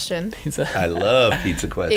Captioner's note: laughing